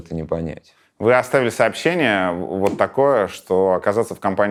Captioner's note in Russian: щёлкает пальцами